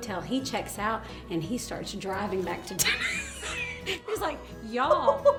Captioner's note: laughs